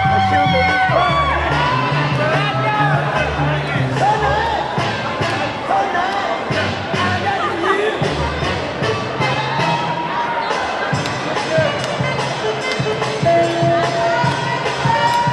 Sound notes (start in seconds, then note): 8.0 funky music; 8.9 audience clamoring